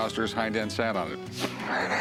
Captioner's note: laughs